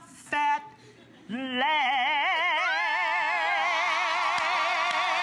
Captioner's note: applause